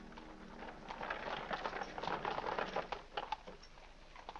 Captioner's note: hooves trotting